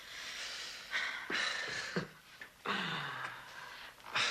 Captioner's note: Dan chuckles